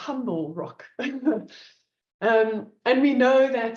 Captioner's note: laughs